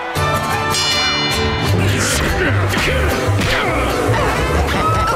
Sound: dinging; grunting

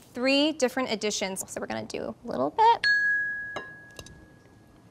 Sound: bell

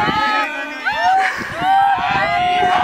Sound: singing; cheering

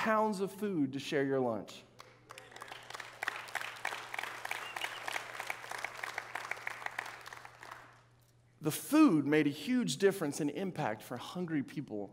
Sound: audience clapping

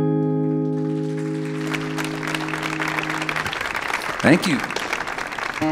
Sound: audience applauding

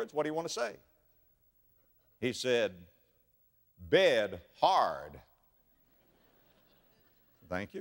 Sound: audience laughter

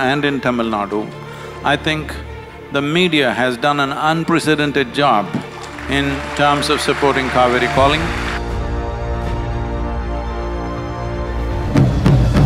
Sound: applause

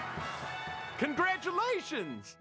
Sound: band playing; cheering

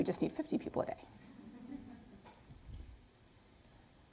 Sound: laughter

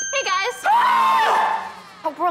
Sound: screaming

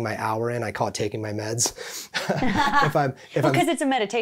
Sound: both laughing

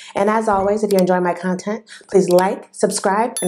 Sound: clicking sound; clicking sound; bell sound

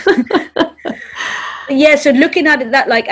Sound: both laughing

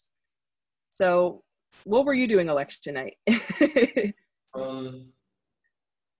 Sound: chuckles

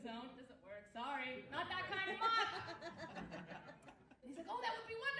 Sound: audience laughs

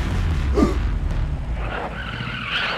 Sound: gasp

